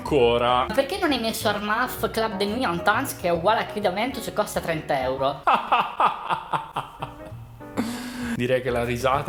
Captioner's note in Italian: risata